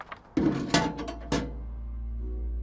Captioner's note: mailbox closes